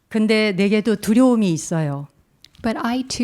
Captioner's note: speaking in Korean